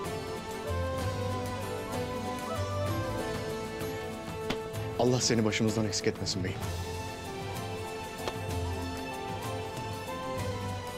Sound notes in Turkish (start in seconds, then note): 8.0 El vurma sesi